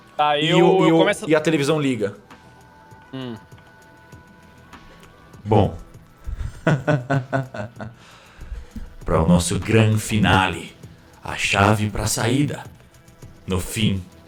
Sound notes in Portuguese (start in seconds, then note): 6.4 Risada sarcástica